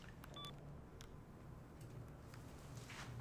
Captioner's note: cell phone beeps